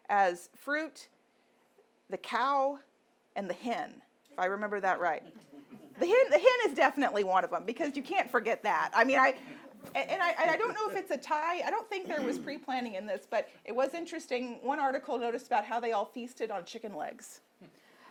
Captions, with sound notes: as fruit, the cow, and the hen. If I remember that right. (audience laughing) The hen is definitely one of them, because you can't forget that. I mean, and I don't know if it's a tie. I don't think there was preplanning in this, but it was interesting, one article noticed about how they all feasted on chicken legs.